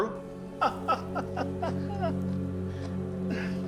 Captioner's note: Sean laughs